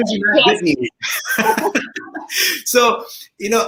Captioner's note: laughing